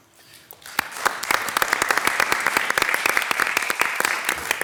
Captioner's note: audience applauds